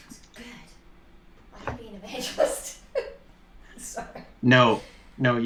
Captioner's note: laughter